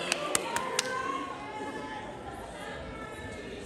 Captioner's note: applause